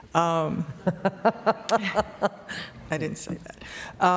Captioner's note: laughter